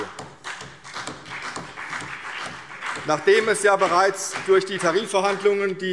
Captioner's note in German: Beifall CDU und BÜNDNIS 90/DIE GRÜNEN